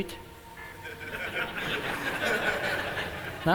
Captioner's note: laughter